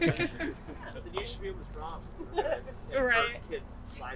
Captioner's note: chuckles